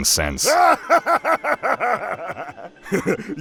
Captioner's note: Heavy Guy laughs hard